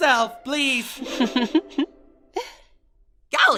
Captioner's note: Candle laughs